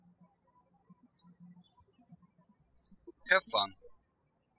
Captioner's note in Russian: птички щебечут